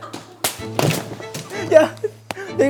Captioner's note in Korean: 쿠당탕